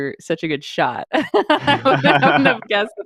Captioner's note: laughs